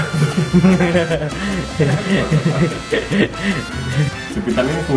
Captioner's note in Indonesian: tertawa